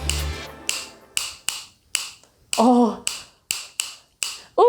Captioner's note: clicking sounds